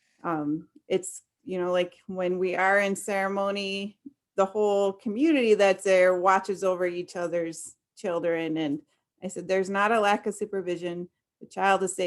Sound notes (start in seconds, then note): none